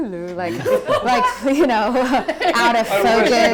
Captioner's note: laughing